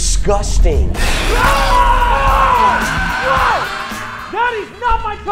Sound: screaming

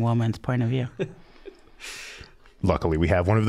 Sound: chuckling

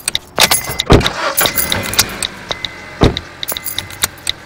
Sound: engine turning

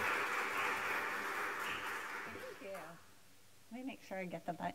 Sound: applause

